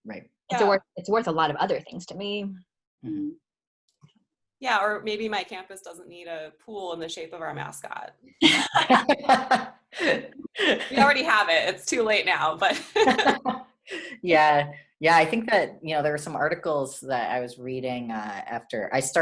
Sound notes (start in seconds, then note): 12.7 laughter